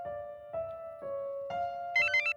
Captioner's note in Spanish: Suena el celular